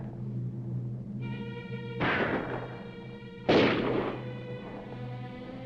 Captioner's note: dramatic music; guns firing; dramatic music